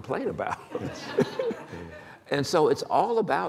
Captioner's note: laughter